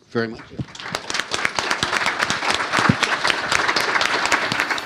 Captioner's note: audience applauds